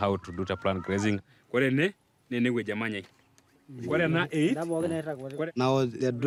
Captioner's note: speaking in foreign language